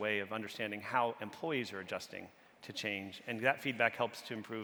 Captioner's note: none